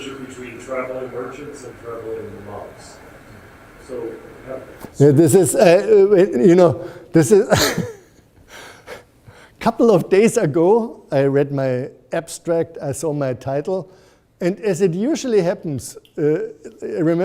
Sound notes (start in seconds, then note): 7.4 laughs